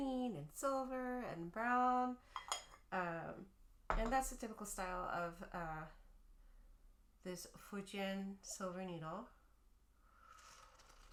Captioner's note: sip